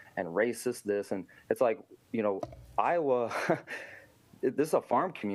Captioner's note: laughter